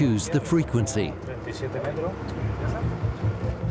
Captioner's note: speaks in Spanish